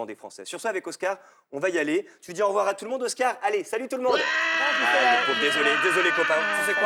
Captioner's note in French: cri